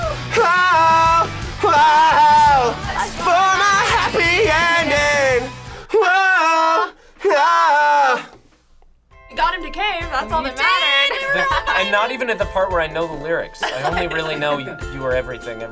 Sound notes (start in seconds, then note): 0.2 vocalizes emotionally; 5.9 vocalize